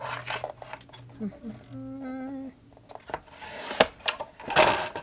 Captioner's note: hums